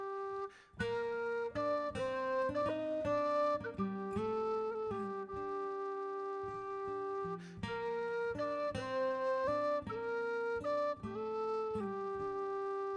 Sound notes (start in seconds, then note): none